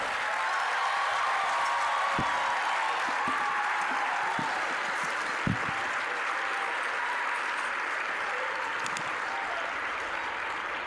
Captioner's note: applause, cheering